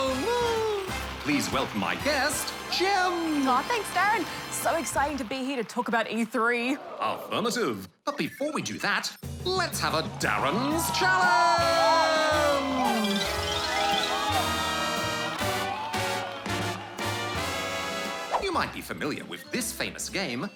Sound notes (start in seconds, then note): 0.0 applause; 13.3 big band game show music; 13.3 cheering, applause